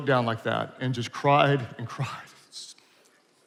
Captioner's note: speaks faintly